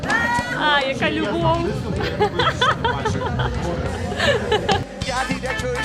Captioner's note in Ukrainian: сміх